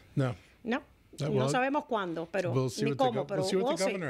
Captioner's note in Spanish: Hablando ingl\s